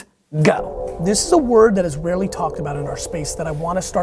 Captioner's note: voiceover